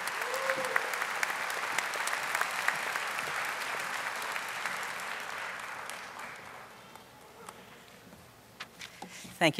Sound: audience applauding

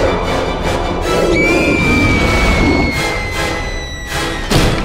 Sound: witch roaring; Edwina screaming; door slams

